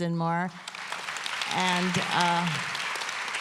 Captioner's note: applause